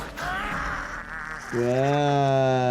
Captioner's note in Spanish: persona grita